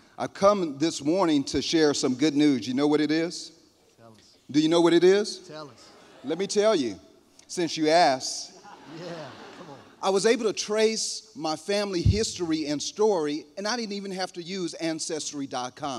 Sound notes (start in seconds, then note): 8.4 laughter